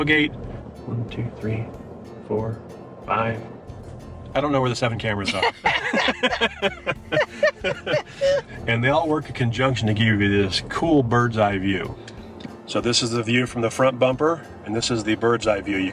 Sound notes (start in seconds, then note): 5.2 laughing